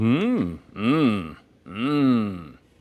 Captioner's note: humming